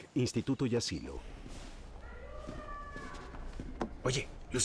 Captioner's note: woman yelling